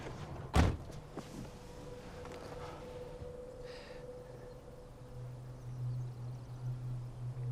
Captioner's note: door slams; tense music; birds chirping